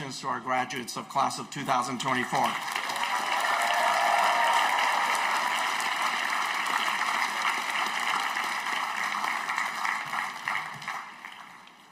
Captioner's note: applause